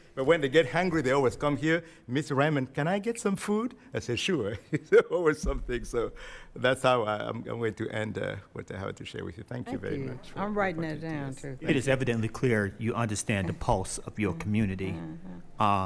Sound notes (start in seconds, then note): 4.5 chuckling